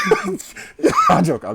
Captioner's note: laughing